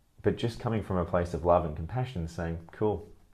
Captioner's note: none